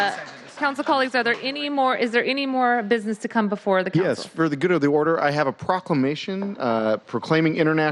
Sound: applause

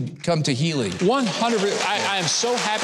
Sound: audience applauding

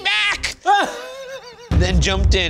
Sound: laughs

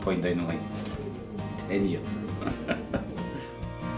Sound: laughs

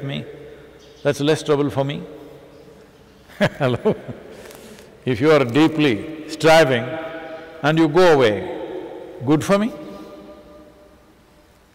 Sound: laughs

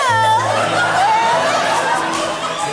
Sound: laughter

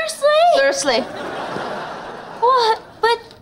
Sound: laughing

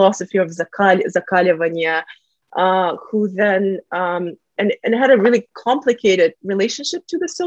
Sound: russian

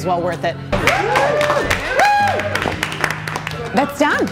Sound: group cheers; group applauds

